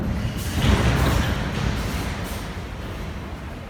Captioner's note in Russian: закрытие дверей